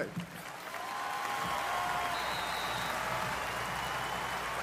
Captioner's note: cheering